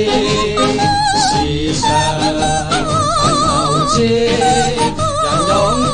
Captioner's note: man voice